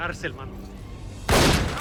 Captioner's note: gunshot bangs